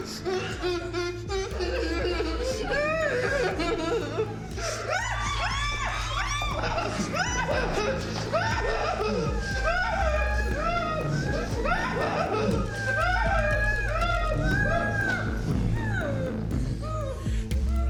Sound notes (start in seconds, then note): 0.2 dramatic music; 1.9 victims groaning; 7.4 dramatic music; 8.4 Mia groaning; 13.4 dramatic music